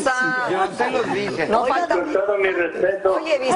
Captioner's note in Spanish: risas